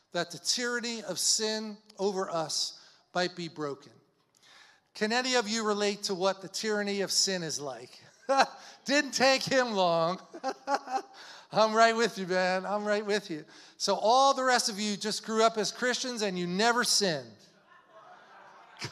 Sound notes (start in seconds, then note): 10.3 laughs; 17.8 audience laughs